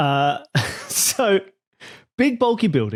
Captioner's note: snickers